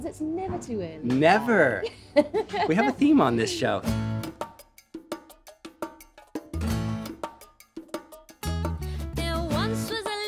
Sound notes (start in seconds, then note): 1.8 laughs; 4.2 upbeat music